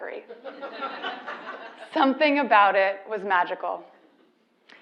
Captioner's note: laugh